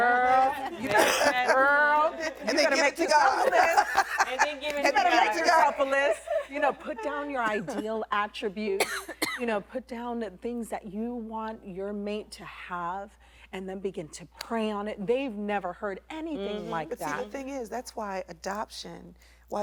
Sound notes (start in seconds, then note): 4.9 laughter